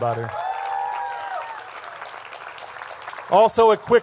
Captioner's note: cheers and applause